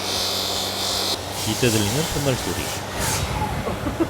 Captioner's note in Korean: 옆에서 들리는 톱날 소리